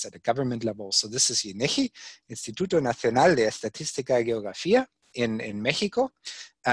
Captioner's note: speaks in foreign language